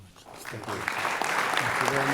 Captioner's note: applause